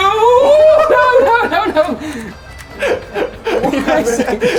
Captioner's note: laughing